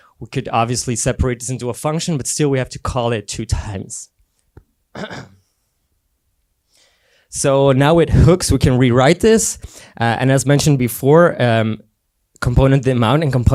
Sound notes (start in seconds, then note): 4.9 clears throat